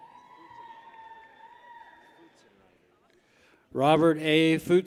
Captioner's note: people cheer